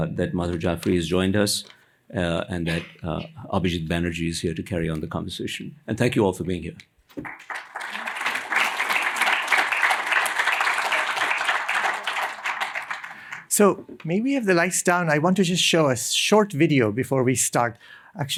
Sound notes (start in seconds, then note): 7.1 applause